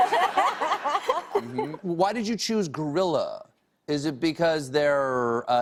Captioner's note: laughter